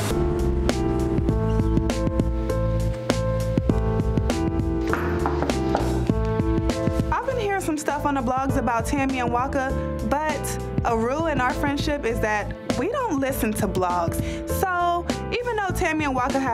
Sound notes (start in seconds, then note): 0.1 chill R&B music; 4.9 Bambi knocking